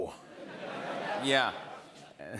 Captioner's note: laughter